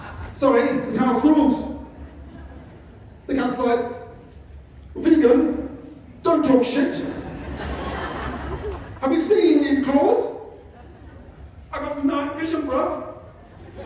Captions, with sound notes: Sorry, it's house rules. The cat's like, "Vegan, don't talk shit." [Laughter] "Have you seen these claws?" "I got night vision, bruv."